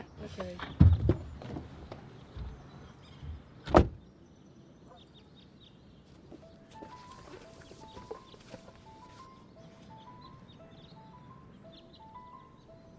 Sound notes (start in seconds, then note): 2.1 birds chirping; 6.4 eerie piano music